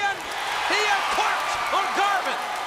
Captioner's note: crowd cheering